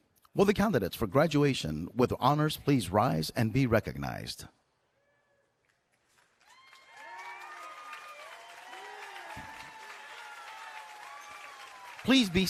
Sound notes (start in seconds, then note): 6.0 cheering and Applause